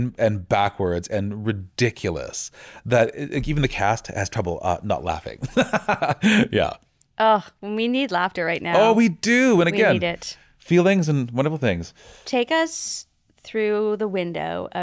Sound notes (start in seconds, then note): 5.4 laughing